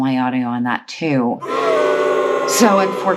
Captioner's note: booing